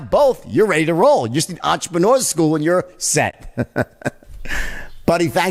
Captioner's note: laughs